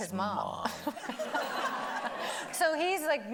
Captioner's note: everybody laughing